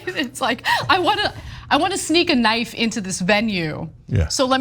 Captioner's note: laugh